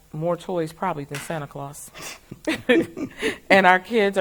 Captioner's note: both laugh